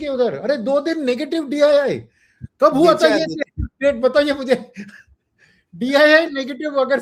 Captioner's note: laughter